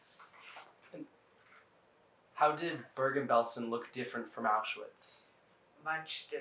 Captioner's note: none